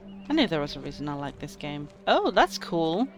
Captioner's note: speaks